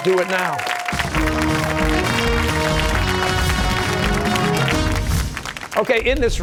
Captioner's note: cheers and applause